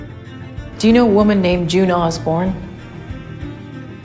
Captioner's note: voiceover